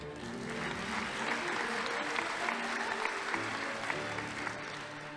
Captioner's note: audience applauding